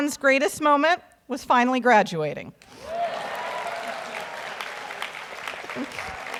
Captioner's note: audience applauds